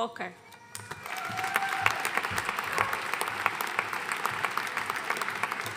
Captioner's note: audience cheering and applauding